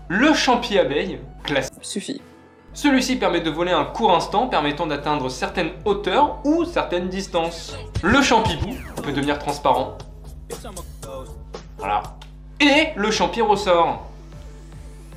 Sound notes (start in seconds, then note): none